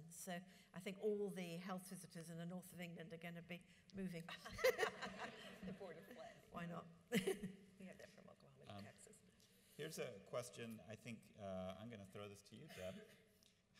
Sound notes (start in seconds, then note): 4.6 audience laughs; 7.5 laughs